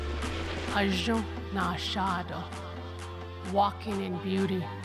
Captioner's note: speaking Navajo